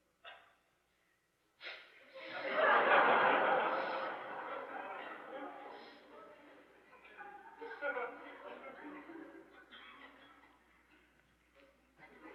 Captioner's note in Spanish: risas